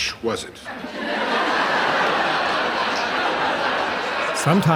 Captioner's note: audience laughs